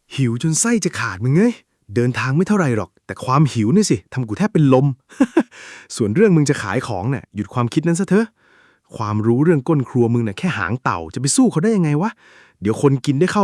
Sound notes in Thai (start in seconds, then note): 5.1 เสียงหัวเราะ